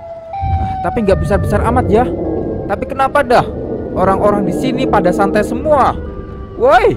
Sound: Sirenhead Noise

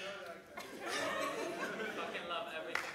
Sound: audience laughs

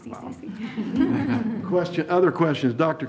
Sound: all laugh

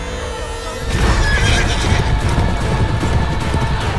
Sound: horses neighing and galloping

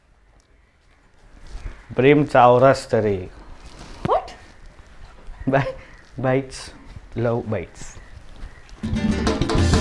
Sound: howling

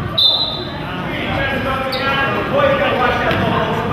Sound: whistle blows

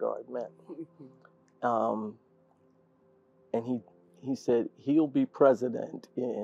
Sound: laugh

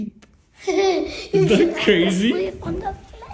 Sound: laughs

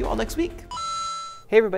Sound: ping

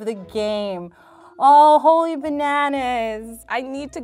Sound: gasps

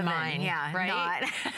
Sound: laughter

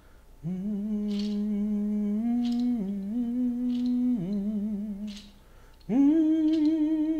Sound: humming

